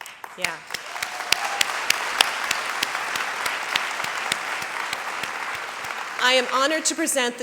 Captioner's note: applause